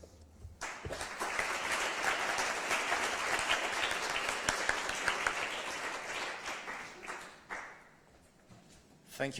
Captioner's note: applause